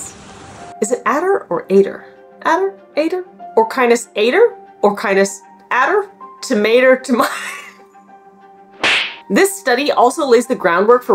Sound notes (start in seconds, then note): 0.2 background music; 7.0 breaks into laughter; 7.9 background music; 8.7 clapperboard sound effect